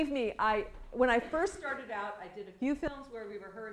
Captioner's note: laughter